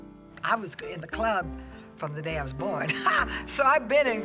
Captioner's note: laughs